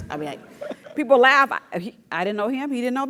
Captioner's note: laugh